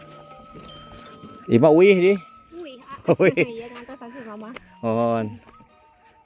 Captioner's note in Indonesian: tertawa